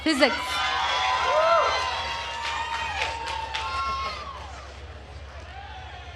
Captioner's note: attendees cheering and applauding